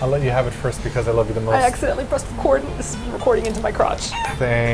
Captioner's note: chicken noise